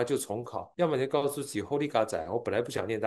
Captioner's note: Taiwanese